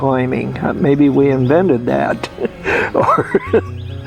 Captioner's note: laughs